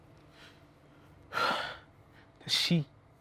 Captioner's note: sigh